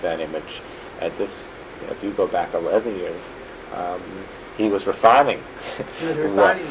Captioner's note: laughs